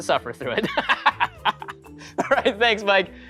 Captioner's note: laughing